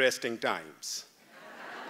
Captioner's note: laughter